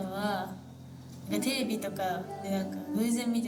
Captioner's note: speaking in foreign language